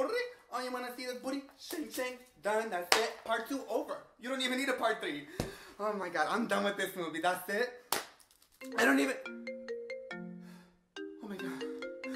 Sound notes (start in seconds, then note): 8.6 phone rings